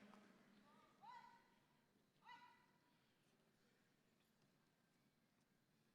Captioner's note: person yelling commands